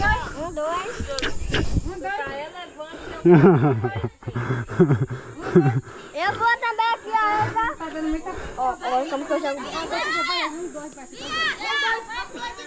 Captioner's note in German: gelächter